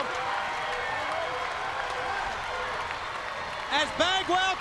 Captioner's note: crowd cheering